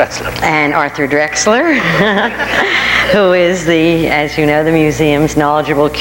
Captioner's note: laughs